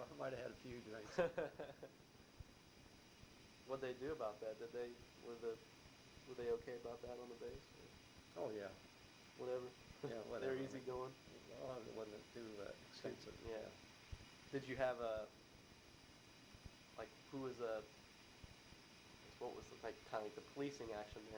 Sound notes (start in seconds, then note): 0.0 laughs; 1.0 chuckles